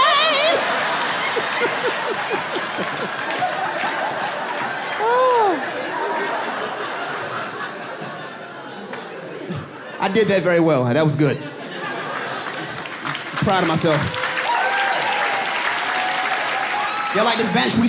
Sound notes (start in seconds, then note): 12.1 audience cheering; 17.2 audience laughing